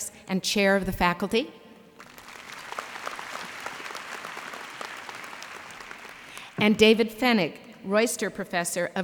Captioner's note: applause